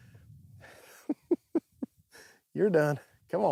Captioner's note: laughs